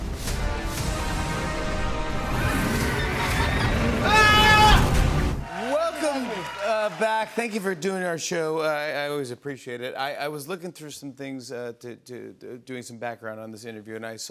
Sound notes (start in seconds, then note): 0.0 dramatic music plays; 2.1 dragon roars